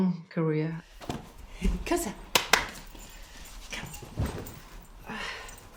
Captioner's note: speaks in Danish